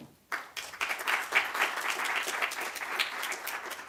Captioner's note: applause